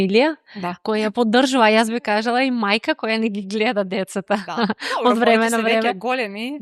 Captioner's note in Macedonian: смеа